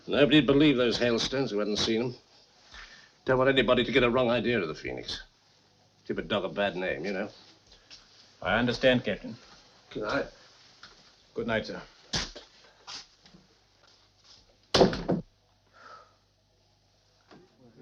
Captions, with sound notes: - Nobody'd believe those hailstones who hadn't seen them. Don't want anybody to get a wrong idea of the Phoenix. Give a dog a bad name, you know? - I understand, Captain. - Goodnight. - Goodnight, sir. (door banging)